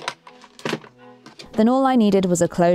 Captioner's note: box locks click; waltz music starts